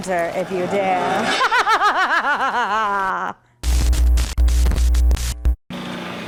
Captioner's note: evil Laugh